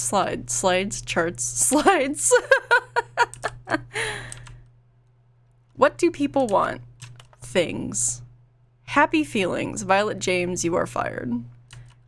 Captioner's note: laughs